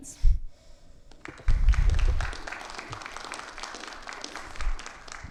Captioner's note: audience applauding